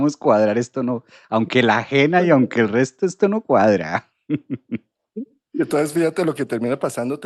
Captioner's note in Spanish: risas